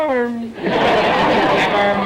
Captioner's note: audience laughter